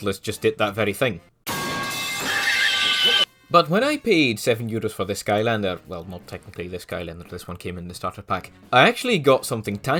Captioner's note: fart reverb